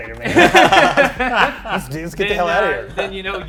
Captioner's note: everyone laughs